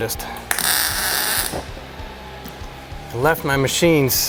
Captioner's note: tool whirring